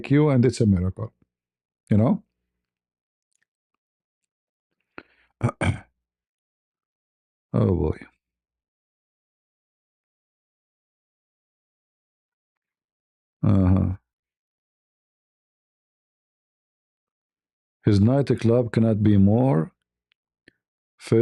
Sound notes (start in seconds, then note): 5.4 berdehem